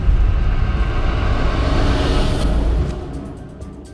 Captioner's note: rumble climaxes and fades